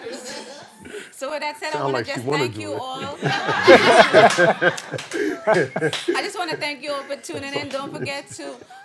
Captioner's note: laughter; laughter